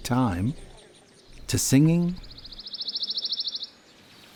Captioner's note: bird chripping